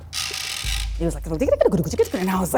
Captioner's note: tong screeches